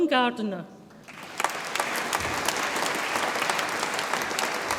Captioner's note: audience applauds